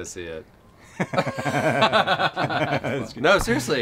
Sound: laughter

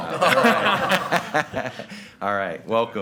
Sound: group laughing

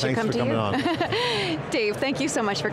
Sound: laughing

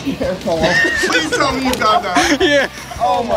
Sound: laughing

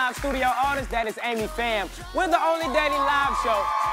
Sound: cheers and applause

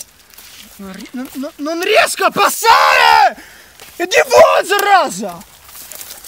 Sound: russian imprecations

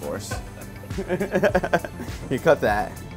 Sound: laughs

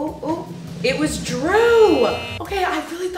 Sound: drumroll; buzzer

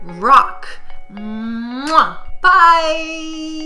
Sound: kiss sound

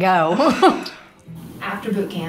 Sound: laughter

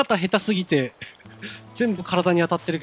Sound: giggle

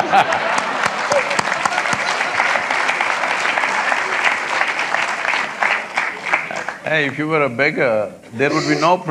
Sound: applause

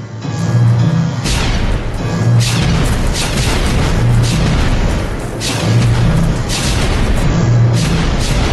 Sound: explosions

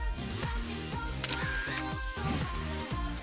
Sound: camera shutter clicking

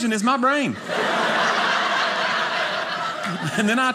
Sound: audience laughing

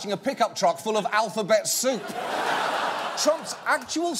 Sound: audience laughing

